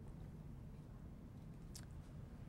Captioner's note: none